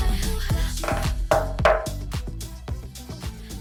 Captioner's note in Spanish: Llaman a la puerta